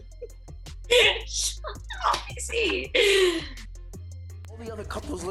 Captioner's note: laughs